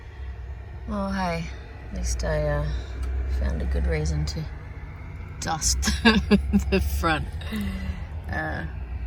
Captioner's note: laughing